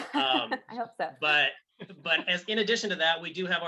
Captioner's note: laughing